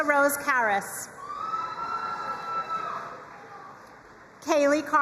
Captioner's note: crowd cheering and applauding